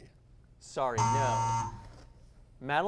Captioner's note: buzz